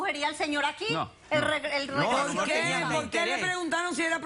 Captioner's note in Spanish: Hablan al unísono